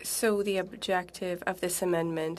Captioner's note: speaking French